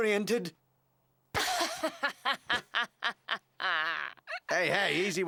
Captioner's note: laughing